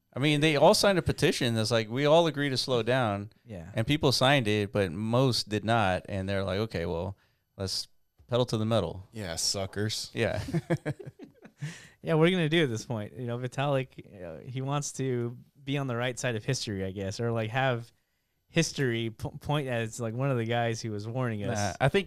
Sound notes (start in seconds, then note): 10.4 laughs